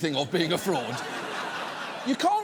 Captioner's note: audience laughs